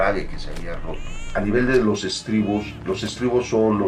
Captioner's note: baby crying